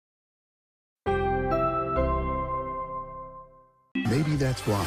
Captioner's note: NBC chimes plays